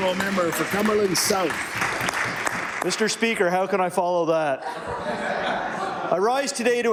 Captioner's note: applause